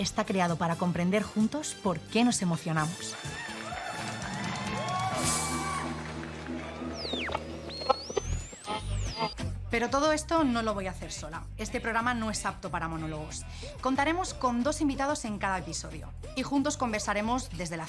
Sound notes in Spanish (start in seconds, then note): 3.0 Vítores y aplausos; 6.8 Radio sintonizándose